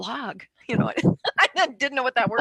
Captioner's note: laughs